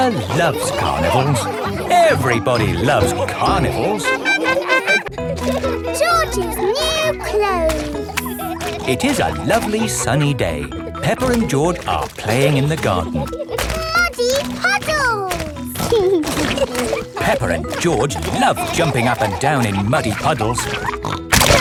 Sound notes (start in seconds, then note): 4.4 laughing